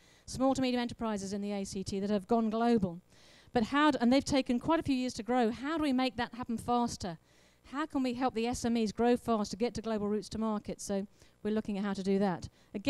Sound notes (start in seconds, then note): none